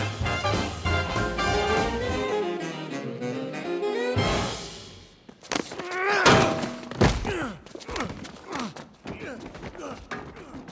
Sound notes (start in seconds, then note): 6.2 clang; 7.0 rolling sounds